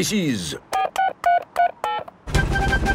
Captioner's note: dialing